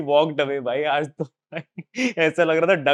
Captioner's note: laughing